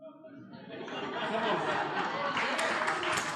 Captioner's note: laughter/Applause